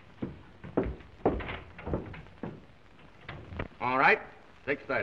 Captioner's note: footsteps thudding